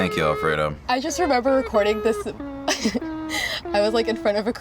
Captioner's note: laughs